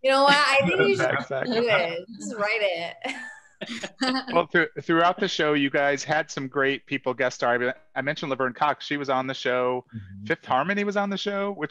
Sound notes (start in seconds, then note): 3.6 laughs